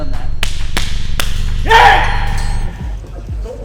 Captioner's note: mad stan yells